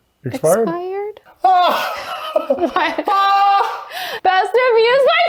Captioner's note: laughing